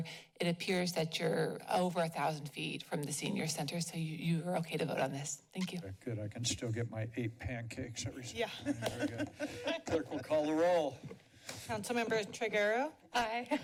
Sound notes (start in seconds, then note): 8.5 laughs